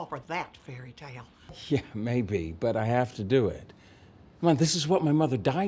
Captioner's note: none